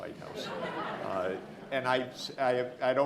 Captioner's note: audience laughing